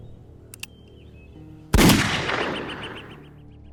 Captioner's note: gunshot blasts; tense somber music